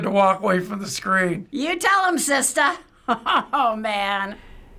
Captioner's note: chuckling